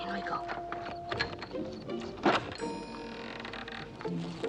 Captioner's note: creaking; jingling